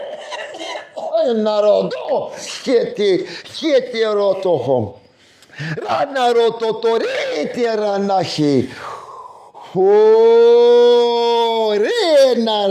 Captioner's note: non-english speech